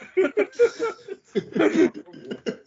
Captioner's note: laughing